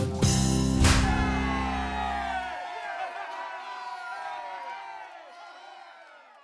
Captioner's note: crowd cheering; confetti bangs